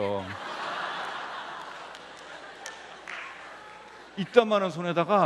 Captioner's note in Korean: 웃음